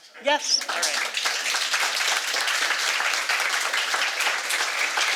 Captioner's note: audience applauding